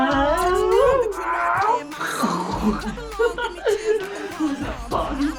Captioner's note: laughing; making airplane noises